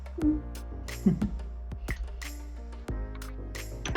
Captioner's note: chuckles